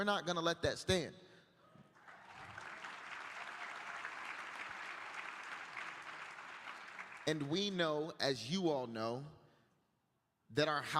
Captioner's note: applause